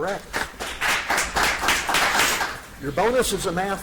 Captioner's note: audience applauds